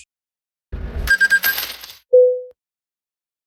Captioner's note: service Sound